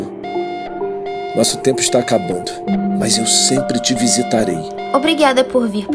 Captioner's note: alarm